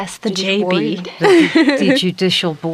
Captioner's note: giggles